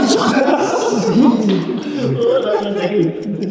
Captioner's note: everyone laughs